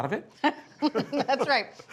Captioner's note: Bridget laughs